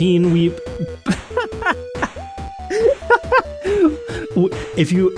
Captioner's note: laughter